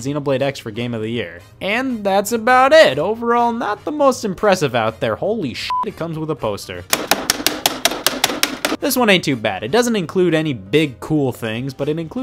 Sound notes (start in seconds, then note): 5.7 beep; 6.9 banging noises